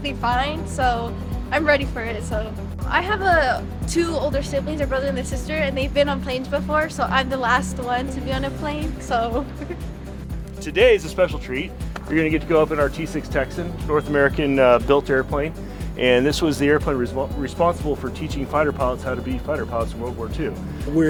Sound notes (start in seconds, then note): 9.4 chuckles